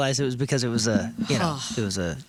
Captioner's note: sigh